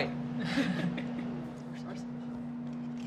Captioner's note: laughter